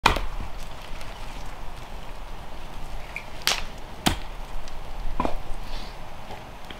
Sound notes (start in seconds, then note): 0.0 fire crackling; 3.8 wood snapping